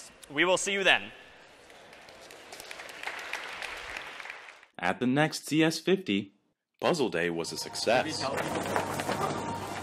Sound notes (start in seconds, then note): 1.6 applause